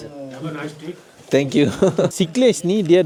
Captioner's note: speaking Nepali; laugh